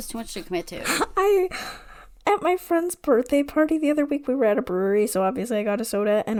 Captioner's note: laughing